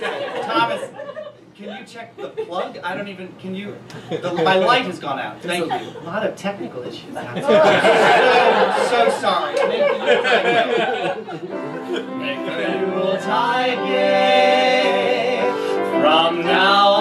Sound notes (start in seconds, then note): 7.2 crowd laughs; 9.8 crowd laughter drowns out voice